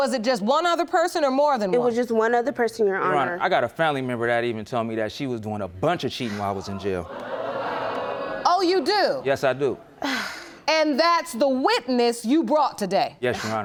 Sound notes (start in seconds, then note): 7.5 audience murmuring